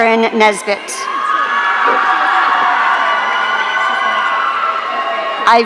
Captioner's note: audience cheering